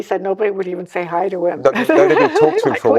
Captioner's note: laughs